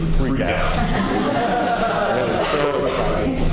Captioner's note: laughter